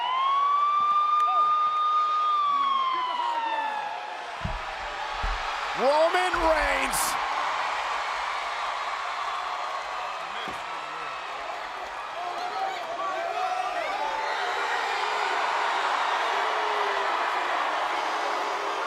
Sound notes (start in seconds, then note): 7.2 applause